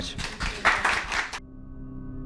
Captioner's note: applause